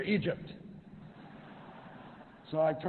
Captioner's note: laughter